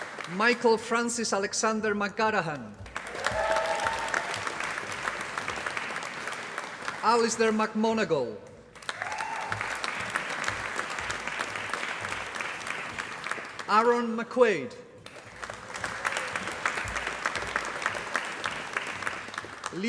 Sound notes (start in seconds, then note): 0.0 applause; 2.9 applause; 8.5 applause; 14.9 applause